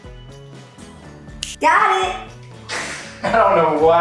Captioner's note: finger clicks